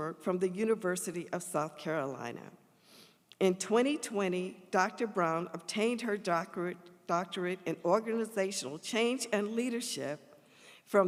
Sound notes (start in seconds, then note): none